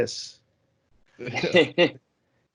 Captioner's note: laughter